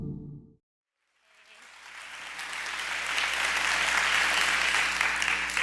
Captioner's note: audience applauds